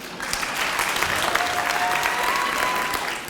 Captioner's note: applause